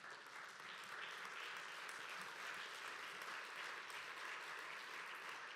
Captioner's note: applause